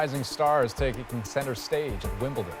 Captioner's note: cheers and Applause